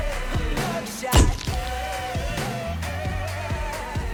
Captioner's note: camera clicking